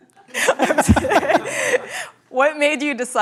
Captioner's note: laughter